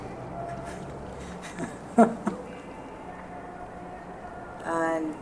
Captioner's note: mother laughing